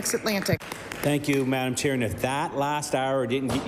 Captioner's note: some Applause